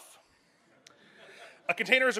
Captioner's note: soft audience laughs